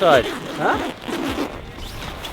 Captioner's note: zip crunching